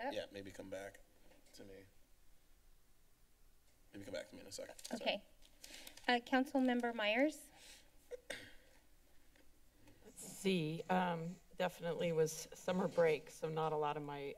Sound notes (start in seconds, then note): 8.1 clears Throat; 8.7 silence